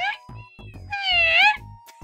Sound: cat retorts

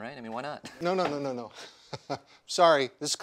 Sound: chuckles

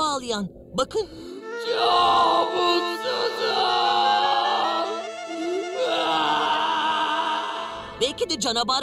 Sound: crying

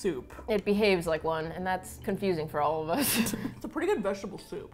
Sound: both laugh

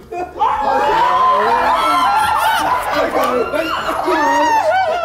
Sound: Sidemen screaming

